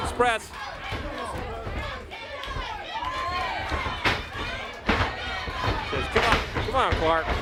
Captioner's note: crowd chatter